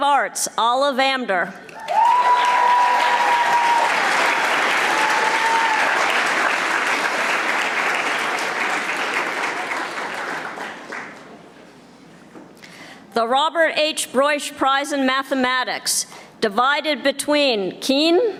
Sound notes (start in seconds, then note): 2.1 audience applauding